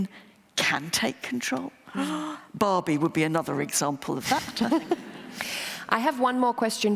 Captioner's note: laughter